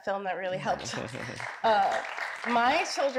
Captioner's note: audience applauding